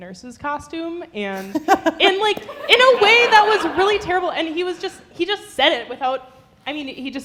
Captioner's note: laughter